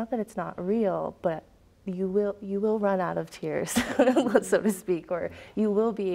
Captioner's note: chuckles